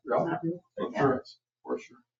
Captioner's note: people chattering